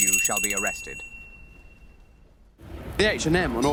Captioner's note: bell rings